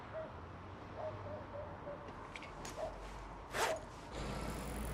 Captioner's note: ladridos